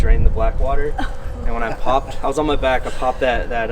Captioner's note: laughs and cringes